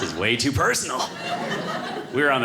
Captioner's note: audience laughing